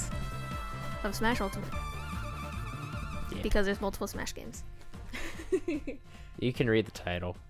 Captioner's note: giggles